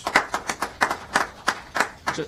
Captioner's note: applause